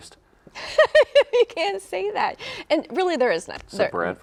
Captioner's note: laughs